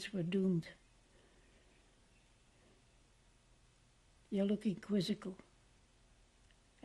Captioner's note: pauses for 3 seconds